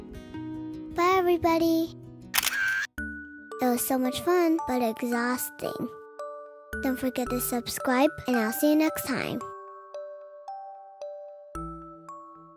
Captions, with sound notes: Bye everybody. [camera shutter] It was so much fun but exhausting! Don’t forget to subscribe and I will see you next time.